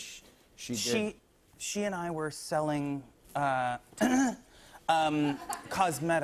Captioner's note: clears throat